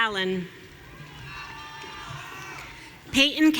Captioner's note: audience cheering